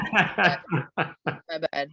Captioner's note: laughs